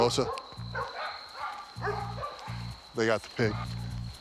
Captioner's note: neighborhood dogs barking